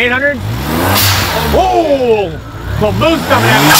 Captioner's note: engine backfires